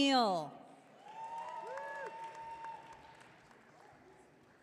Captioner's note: audience cheering